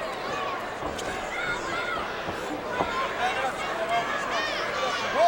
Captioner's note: audience chattering